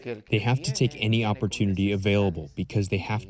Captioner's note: through translator